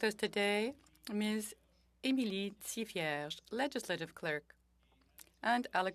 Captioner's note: speaking French